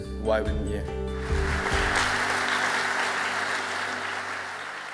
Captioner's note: applause